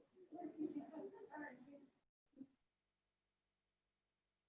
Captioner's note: background chatter